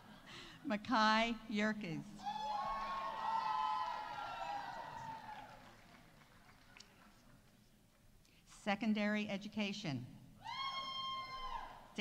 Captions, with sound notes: Makai Yerkes. -(audience applauding) -(audience cheering) -Secondary Education. -(audience cheering)